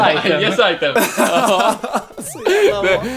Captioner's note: laughs